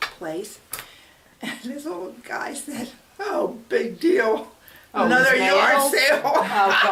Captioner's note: all laugh